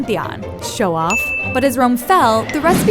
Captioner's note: ping